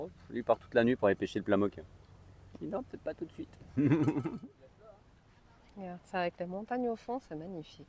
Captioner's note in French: rires